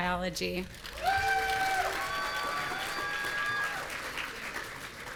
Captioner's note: audience cheering